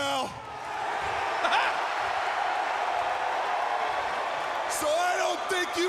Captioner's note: crowd cheering; Jerry chuckling